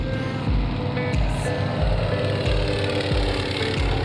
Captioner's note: airplane engine